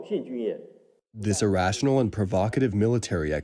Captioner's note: through translator